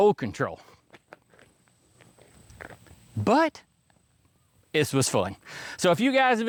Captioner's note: crunching